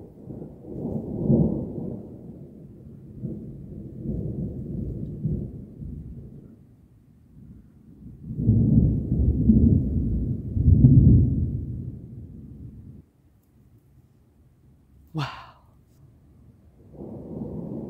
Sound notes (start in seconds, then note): 0.0 more distant thunder; 8.0 louder deep thunder; 16.2 quiet thunder